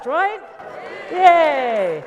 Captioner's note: audience cheers